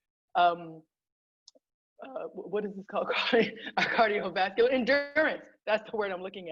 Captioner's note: laughter